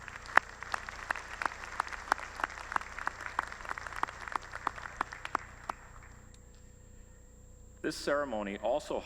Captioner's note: applause